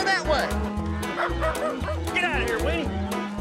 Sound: dog barking

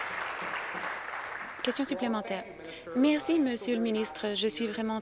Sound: applause

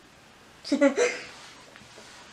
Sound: giggles

